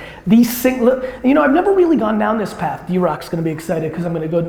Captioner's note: none